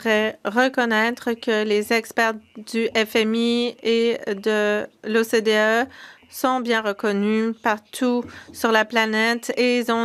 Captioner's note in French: voix de l'interprète